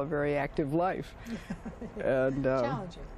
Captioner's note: laughter